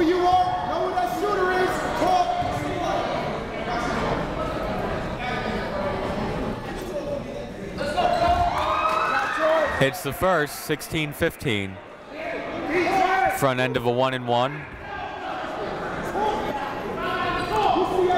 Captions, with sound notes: (crowd talking) (coaches yelling) (crowd cheering) Hits the first, 16-15. Front end of a one and one.